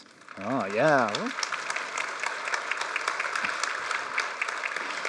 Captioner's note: applause